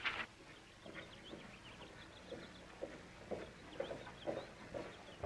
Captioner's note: paper shuffling; birds chirping, hooves clopping